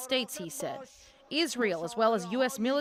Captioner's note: speaking alternate language